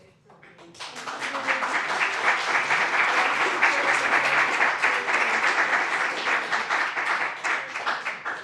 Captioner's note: applause